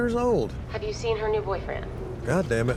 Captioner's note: on phone